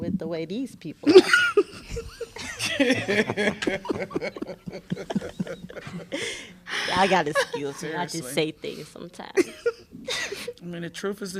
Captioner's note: laughter